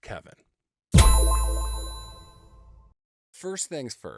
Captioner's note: sharp tone echoing